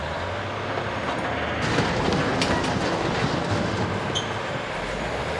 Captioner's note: engine rumbling; building rattling